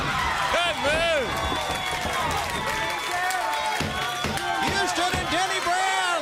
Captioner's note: crowd cheering